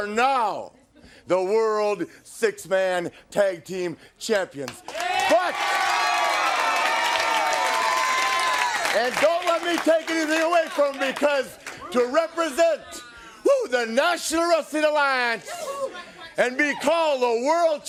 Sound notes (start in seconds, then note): 4.8 crowd cheering